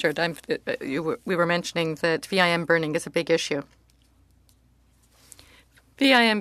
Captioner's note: speaking French